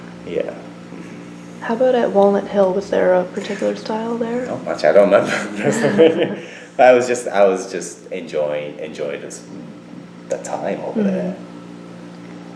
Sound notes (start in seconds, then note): 5.1 both laugh